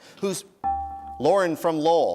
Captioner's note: dinging